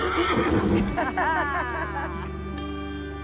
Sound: neighs; laughter

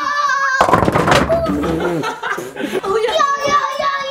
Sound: bowling pins clattering

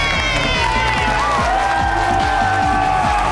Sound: cheering

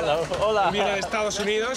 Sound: speaking Spanish

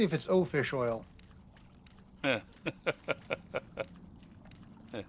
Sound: laughs

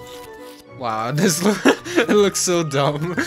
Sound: laughs

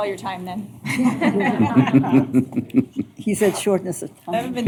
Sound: laughter

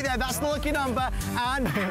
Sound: laughter

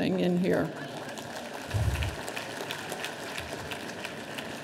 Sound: audience applauding

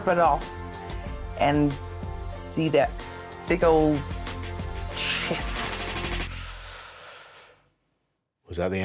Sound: inhales deeply

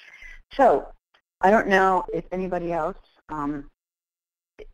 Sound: voiceover

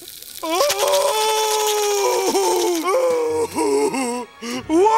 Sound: crying

